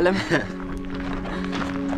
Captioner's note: laughs